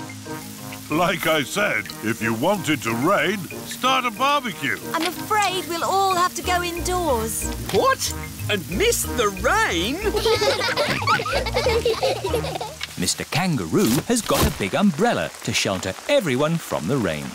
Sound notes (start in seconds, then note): 9.9 all laughing